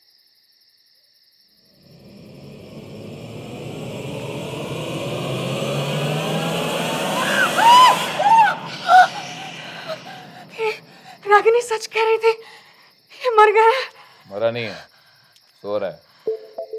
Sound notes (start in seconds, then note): 7.7 screaming